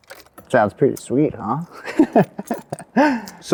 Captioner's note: laughs